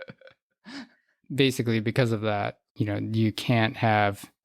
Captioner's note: laughs